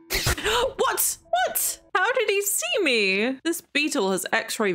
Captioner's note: gasps